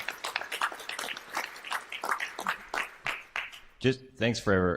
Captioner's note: applause